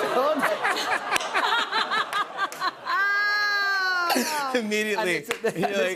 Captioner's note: laughter